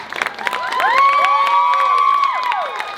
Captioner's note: cheering